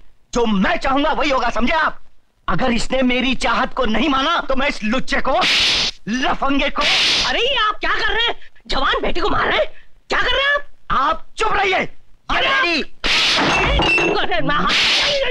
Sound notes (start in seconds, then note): 13.0 slapping